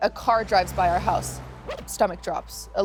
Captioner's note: record scratch